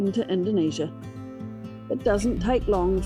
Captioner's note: engine sounds